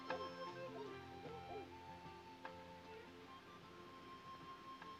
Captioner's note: dogs faintly barking